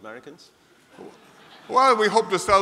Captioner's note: laughter